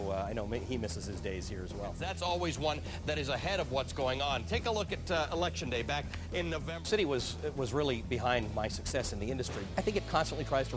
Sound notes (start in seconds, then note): none